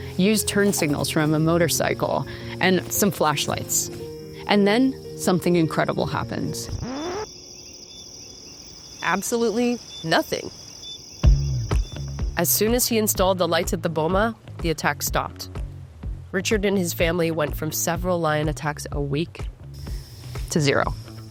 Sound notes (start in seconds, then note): 6.6 record scratches; 6.7 insects chirping; 11.3 upbeat music